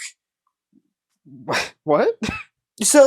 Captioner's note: scoff